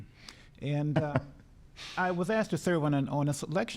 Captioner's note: laughing